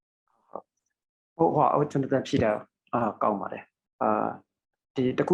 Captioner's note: speaking burmese